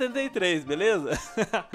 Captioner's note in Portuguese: risos